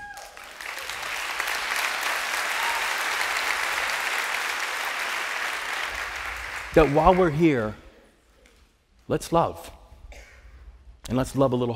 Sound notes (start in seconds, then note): 0.0 cheers and applause